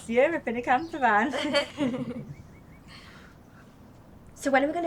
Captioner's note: group laughing